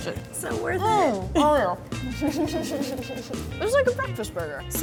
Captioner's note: laughing